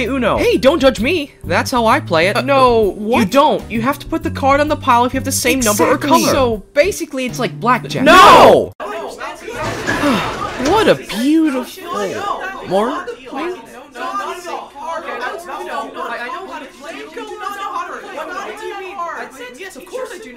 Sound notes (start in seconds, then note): 12.9 arguing